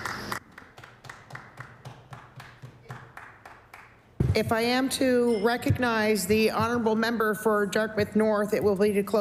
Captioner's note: applause